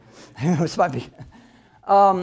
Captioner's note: laughs